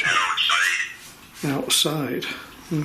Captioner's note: Voice on Ovilus